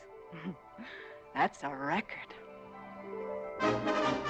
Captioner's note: chuckling